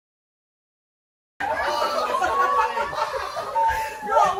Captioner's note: shouting and general clamor